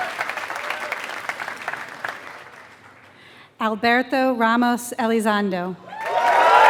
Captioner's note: applause; applause